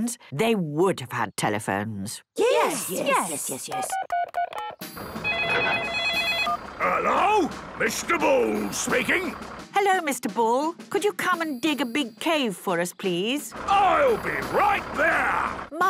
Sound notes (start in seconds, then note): 3.7 phone beeping; 3.8 phone ringing